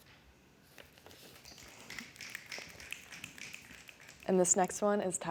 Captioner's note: snapping